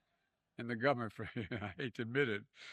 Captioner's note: laughter